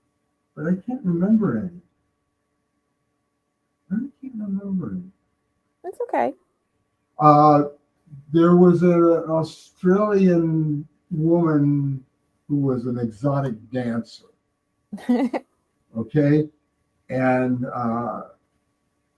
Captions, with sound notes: But I can't remember any. I can't remember any. That's okay. There was an Australian woman who was an exotic dancer, okay? [laughing] And.